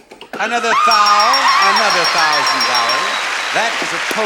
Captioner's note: audience applauding; bell dinging